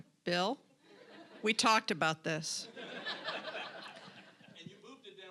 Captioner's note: audience laughing